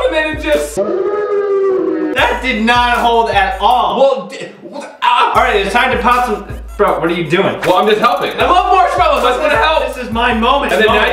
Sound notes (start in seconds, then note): 0.7 dog howls